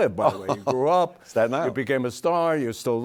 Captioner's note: laughs